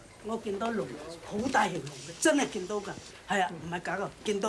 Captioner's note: speaking Chinese